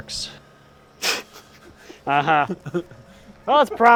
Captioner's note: laughing